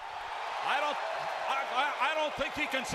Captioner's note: crowd cheering